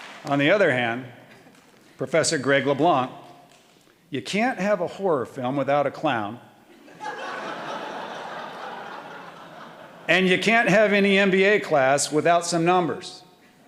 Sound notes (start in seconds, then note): 0.0 audience applauding; 6.8 audience laughing